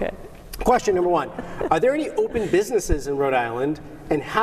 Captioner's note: laughter